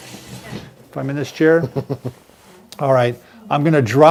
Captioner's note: chuckles